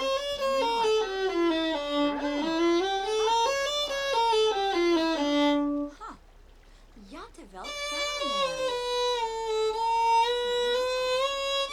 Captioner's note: Simlish